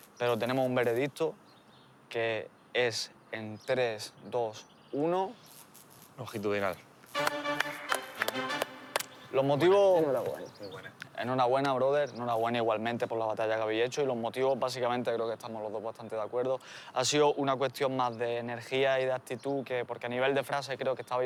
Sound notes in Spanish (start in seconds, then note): 7.1 Aplausos